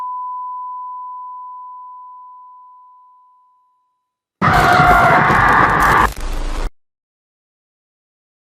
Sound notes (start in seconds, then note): 4.4 john screams